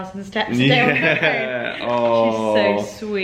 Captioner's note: laughs